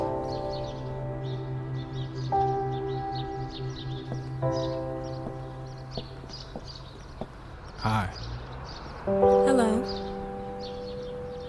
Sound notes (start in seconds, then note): none